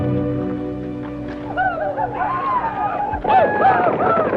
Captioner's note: Apaches howl